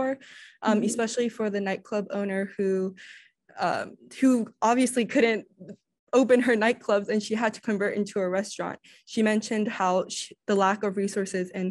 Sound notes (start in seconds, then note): none